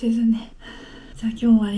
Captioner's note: out of breath